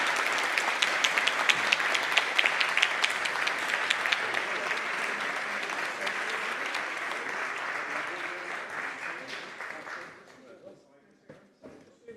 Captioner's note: applause